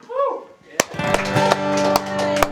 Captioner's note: applause